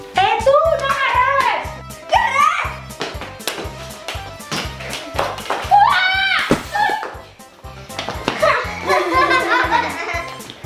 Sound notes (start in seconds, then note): 5.7 screams